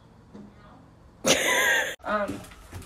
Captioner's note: wheeze